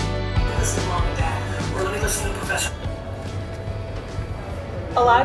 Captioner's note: computer audio plays